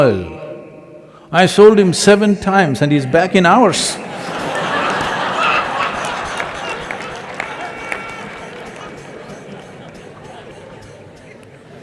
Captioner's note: laughter